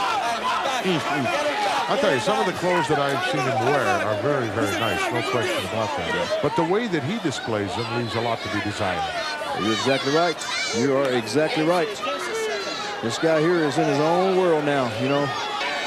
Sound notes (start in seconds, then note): 1.7 chuckling